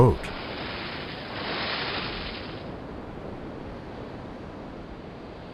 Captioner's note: splashing water